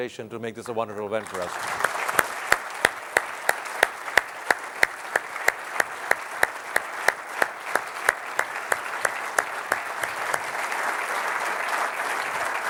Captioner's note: applause